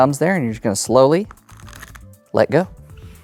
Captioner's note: cards riffling